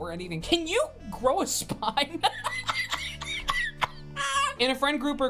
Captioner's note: laughs